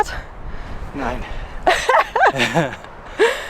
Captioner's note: laughter